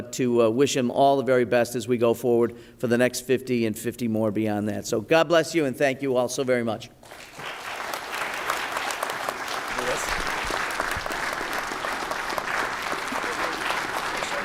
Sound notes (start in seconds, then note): 7.0 applause